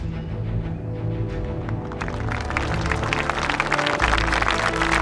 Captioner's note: applause